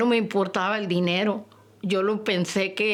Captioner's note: speaking Spanish